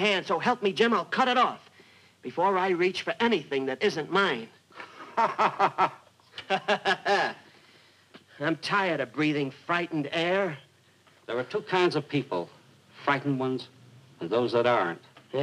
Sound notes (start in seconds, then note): 6.2 laughing; 6.3 mock laughing